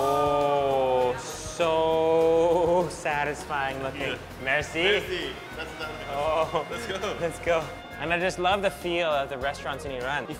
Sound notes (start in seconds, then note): 5.5 speaking foreign language